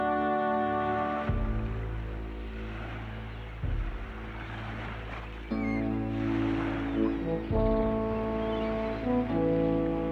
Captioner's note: waves crashing